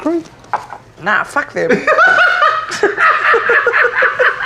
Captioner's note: laughing